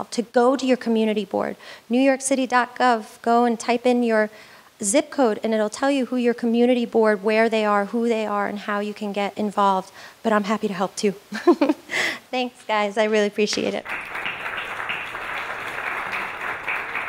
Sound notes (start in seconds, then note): 11.3 laughs; 13.7 audience applauds